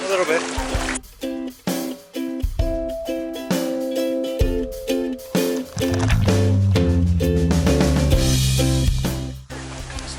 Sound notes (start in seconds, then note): 1.3 upbeat music; 5.7 water hitting camera